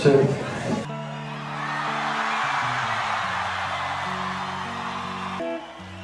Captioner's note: cheering